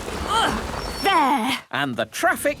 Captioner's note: grunts